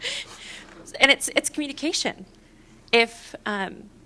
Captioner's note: laughter